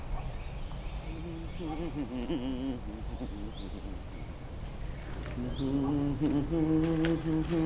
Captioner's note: humming